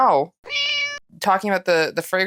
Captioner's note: meow